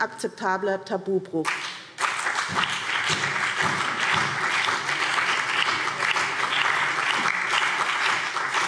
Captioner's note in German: Beifall BÜNDNIS 90/DIE GRÜNEN und CDU